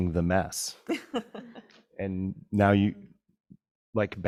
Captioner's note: person laughing